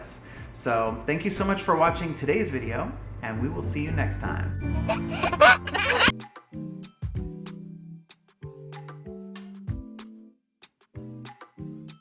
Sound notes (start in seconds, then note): 4.7 laughs; 6.4 gentle music